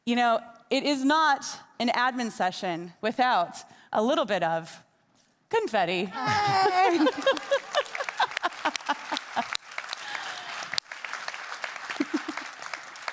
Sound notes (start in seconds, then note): 6.1 laughing; 6.2 attendees clapping